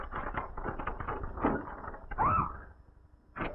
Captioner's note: screams